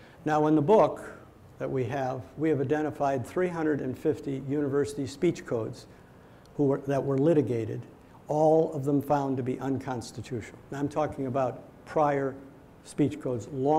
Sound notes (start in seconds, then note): none